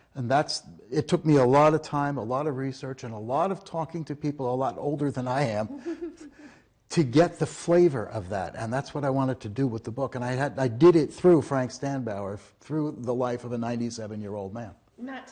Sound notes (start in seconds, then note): 5.6 laughing